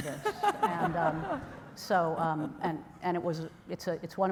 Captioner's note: laughter